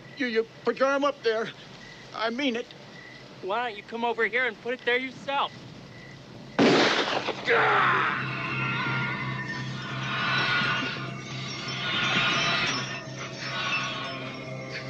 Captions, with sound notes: - You put your arm up there. I mean it. Why don't you come over here and put it there yourself? [gun shot] [Sam screams]